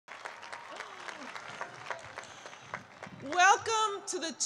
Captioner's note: applause